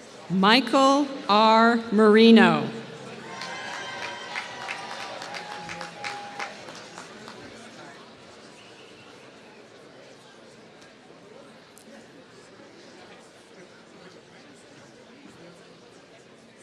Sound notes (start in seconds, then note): 3.1 applause